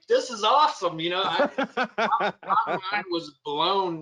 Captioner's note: laughs